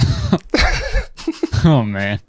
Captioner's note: pair laughs